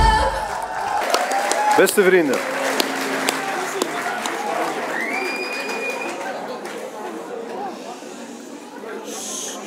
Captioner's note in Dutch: applaus